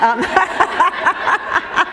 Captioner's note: laughter